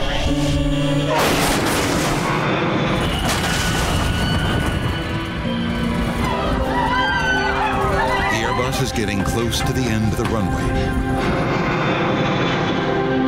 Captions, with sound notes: (plane crashing) (all screaming) The air bus is getting close to the end of the runway.